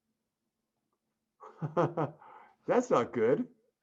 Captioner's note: chuckling